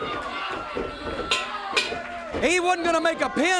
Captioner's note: bell ringing